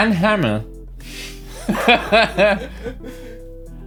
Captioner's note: laughs